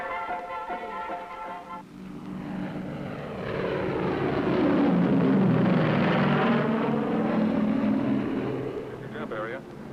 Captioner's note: aircraft roaring